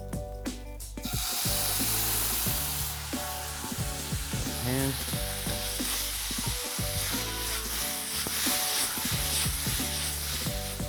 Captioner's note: sizzling